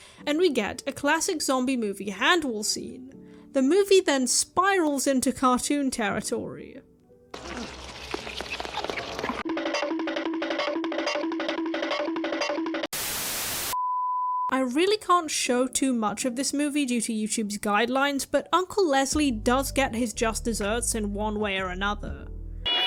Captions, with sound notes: and we get a classic zombie movie hand wall scene. The movie then spirals into cartoon territory. [cartoon running sound effect] [static] I really can’t show too much of this movie due to YouTube’s guidelines, but Uncle Lesley does get his just desserts in one way or another.